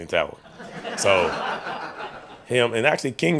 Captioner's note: reporters laughing